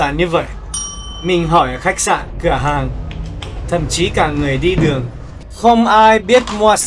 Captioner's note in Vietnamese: chuông